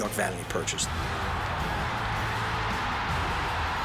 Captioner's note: crowd roaring